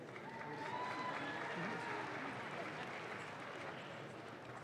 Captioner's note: audience claps